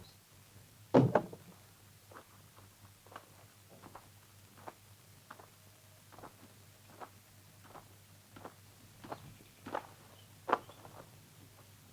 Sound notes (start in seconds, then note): 0.9 car door thuds